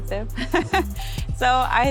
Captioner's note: laughing